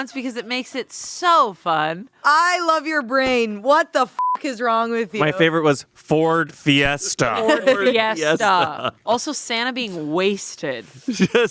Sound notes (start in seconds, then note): 7.0 laughing